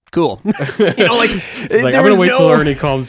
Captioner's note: hosts laughing